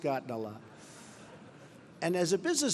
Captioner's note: laughter